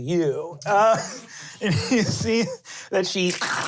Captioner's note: laughing; wet skittering